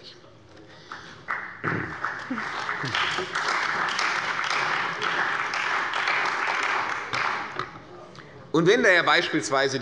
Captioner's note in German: Beifall bei der CDU und dem BÜNDNIS 90/DIE GRÜNEN